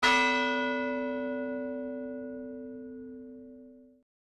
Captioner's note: bell ringing